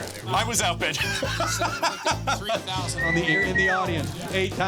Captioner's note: laughs